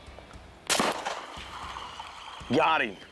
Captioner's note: upbeat rock music; firing rifle